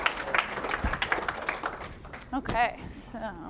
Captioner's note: applause